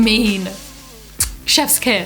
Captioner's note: kissing noise